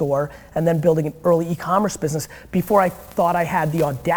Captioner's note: none